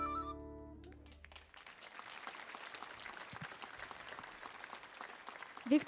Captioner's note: audience applauding